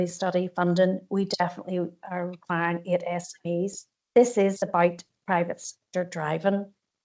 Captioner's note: audio distorts 43.36